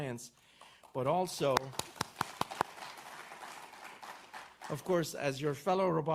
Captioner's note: audience applauds